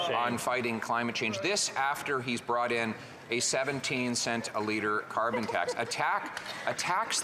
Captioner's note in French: voix de l'interprète